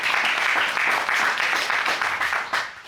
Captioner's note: audience applauding